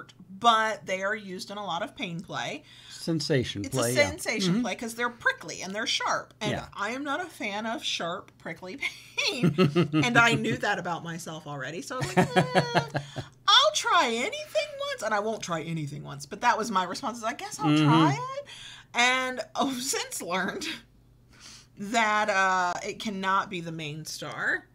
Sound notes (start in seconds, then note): 12.0 laughs